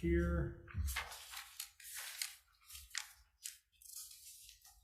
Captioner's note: paper rustles loudly